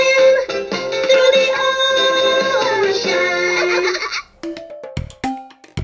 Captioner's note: laughs; playful music